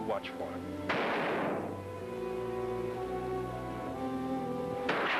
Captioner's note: gunshot bangs